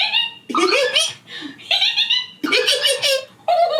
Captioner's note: high pitched squelching; high pitched squelching; squelching